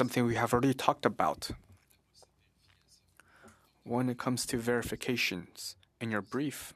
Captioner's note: speaking French